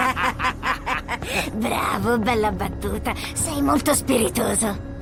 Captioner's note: laughs